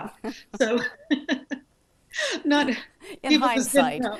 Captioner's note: both laugh